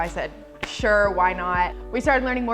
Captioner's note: hands slapping